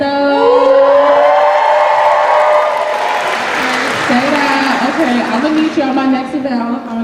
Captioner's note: cheers